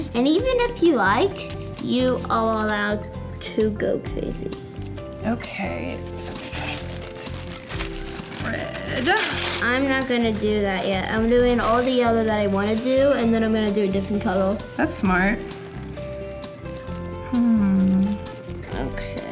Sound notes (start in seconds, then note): 6.4 paper rustling; 15.8 soft music